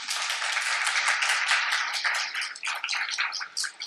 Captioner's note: applause